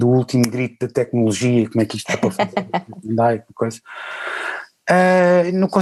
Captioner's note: laughs